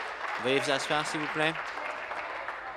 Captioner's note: applause